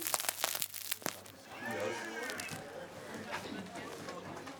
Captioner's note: lively murmur of voices